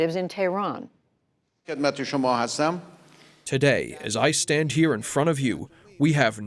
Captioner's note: through translator